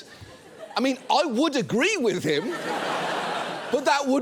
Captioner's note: studio audience laughs